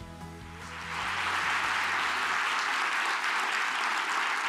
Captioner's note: audience applauds